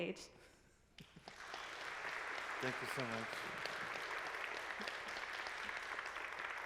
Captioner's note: audience applaud